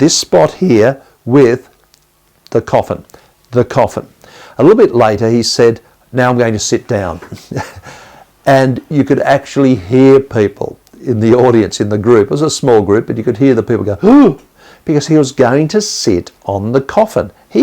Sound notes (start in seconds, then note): 14.5 gasp